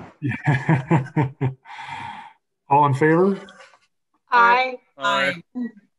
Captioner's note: laughs